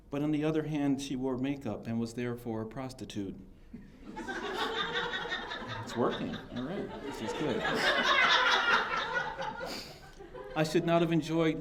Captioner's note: laughter